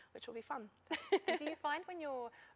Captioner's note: laughter